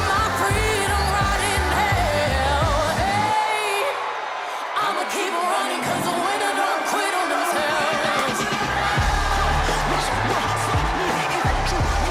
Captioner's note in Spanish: VíTORES